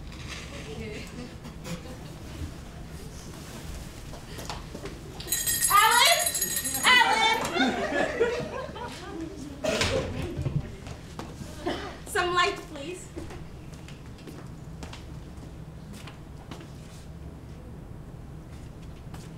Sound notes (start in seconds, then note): 5.2 bell rings